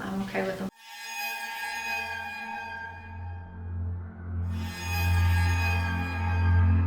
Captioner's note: spooky sound effects